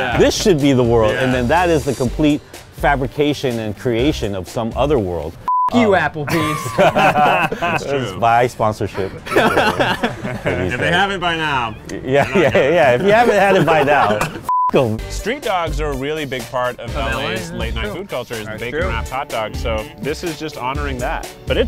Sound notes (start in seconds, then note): 5.4 beep; 6.2 laughs; 9.8 laughs; 14.4 beep